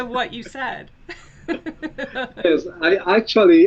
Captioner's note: laughs